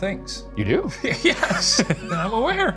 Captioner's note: both laughing